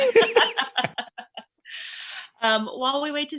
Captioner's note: all laughing